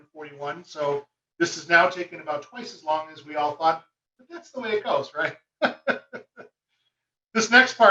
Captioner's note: chuckle